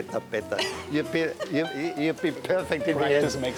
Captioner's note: laughs